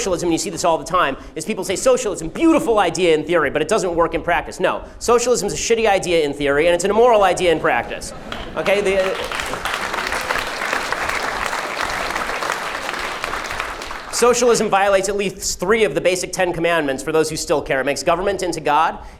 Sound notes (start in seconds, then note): 8.1 crowd applauds; 10.0 crowd applauds